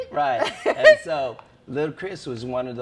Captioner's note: laughs